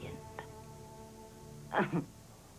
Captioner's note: chuckles